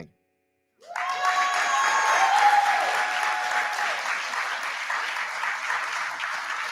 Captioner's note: cheering